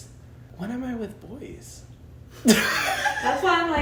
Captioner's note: laughs